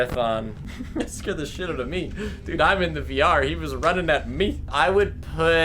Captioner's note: laughs